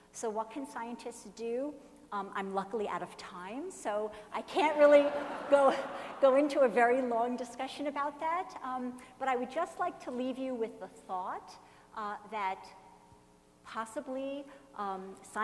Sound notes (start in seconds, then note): 3.8 laughing